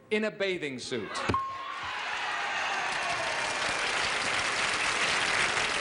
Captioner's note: cheers and applause